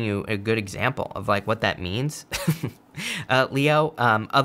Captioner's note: laughs